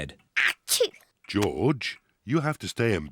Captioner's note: sneezes